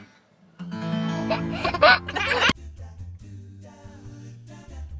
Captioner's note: giggles